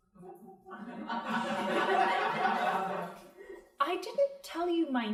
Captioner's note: crowd laughing